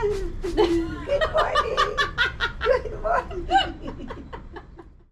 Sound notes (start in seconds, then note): 3.1 laughs